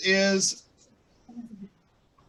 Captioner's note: pause